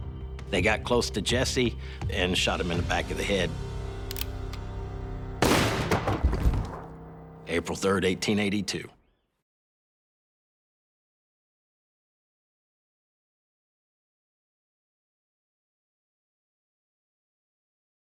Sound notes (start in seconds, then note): 4.0 gun cocking; 5.4 gun firing; 5.5 thudding